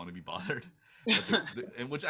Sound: laughs

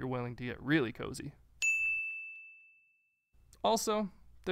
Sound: bell rings

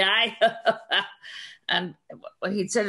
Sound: laughs

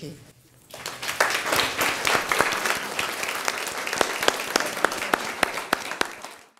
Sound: all applauding

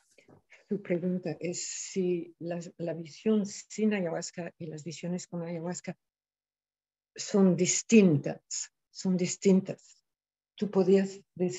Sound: speaking in spanish

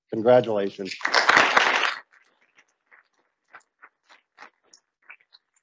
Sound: audience applauding

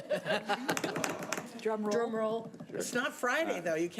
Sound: all laughing

